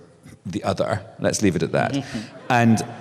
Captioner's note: scattered laughter